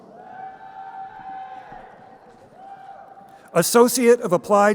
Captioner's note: crowd cheering